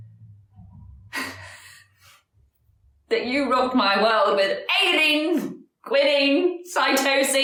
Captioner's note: laughs